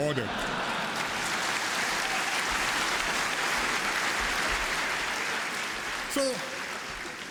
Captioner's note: laughter and applause